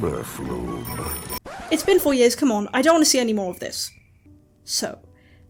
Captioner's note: record scratch